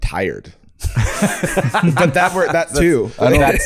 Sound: Hank laughing

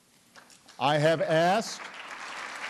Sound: applause

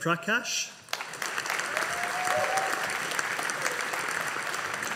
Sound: audience applauding

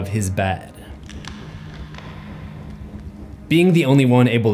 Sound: cracking sounds

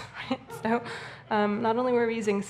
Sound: audience laughing

